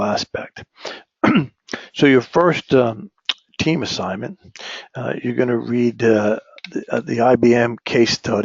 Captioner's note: cough